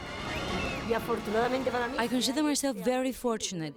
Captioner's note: speaking in Spanish